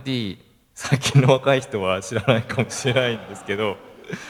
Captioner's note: laugh